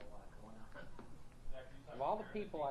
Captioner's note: laughs